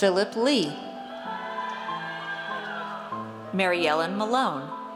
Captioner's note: audience cheers